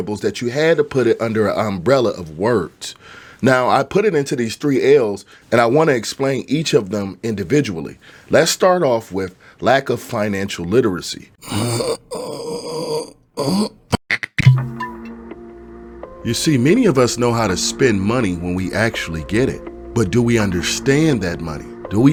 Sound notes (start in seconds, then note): 11.4 groaning; 15.1 gentle music